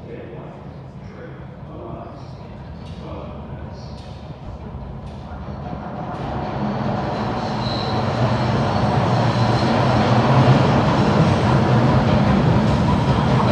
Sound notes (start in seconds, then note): 2.1 train chugs in tunnel; 10.3 train wooshes